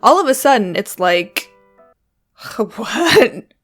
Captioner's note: music stops